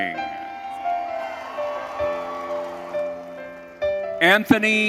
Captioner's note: audience cheering